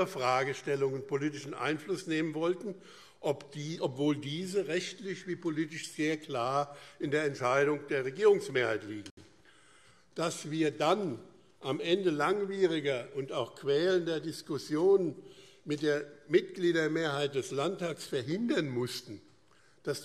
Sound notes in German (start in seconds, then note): none